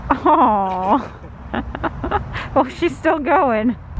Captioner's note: laughing